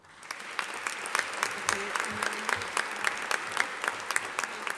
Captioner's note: audience applauding